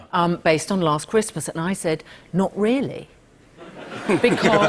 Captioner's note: laughter